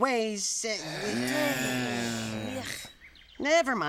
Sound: sighing

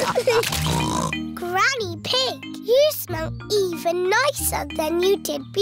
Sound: snorts

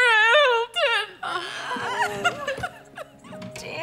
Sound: crying

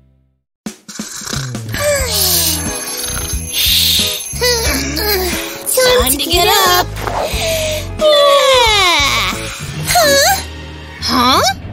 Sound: snoring; groaning

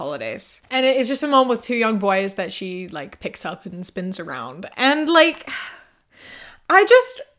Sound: sighs

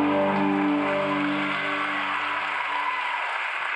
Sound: crowd cheering

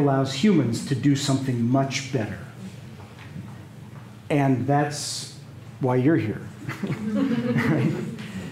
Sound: laughter

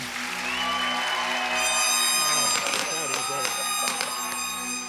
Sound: congregation applauding

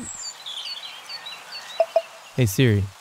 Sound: birds chirping

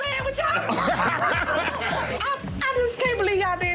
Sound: laughs

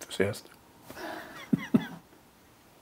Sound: he laughs

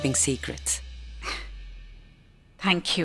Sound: gasps

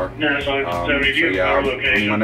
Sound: radio noises in background

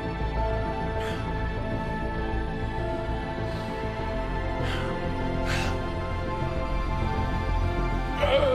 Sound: grunting, panting

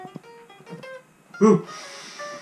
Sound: caveman sound

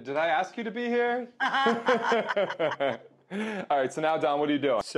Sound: laughing

